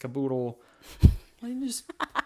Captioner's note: laughs